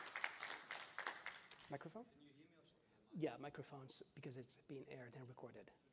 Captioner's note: applause